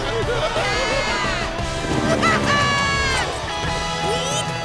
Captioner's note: laughing